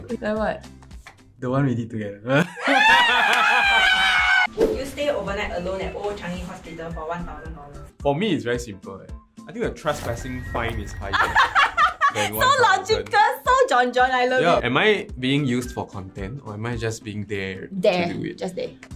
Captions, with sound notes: Like what? The one we did together. (screaming collectively) Would you stay overnight alone at Old Changi Hospital for one thousand dollars? For me, it is very simple. - I think the trespassing fine is higher than $1000. - So logical. So John John, I love it. - Am I being used for content or am I just being there to do it? - Just there.